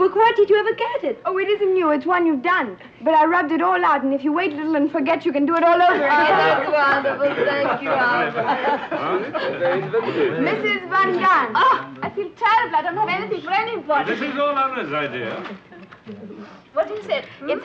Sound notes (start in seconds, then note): 6.1 group chattering; 8.7 group chattering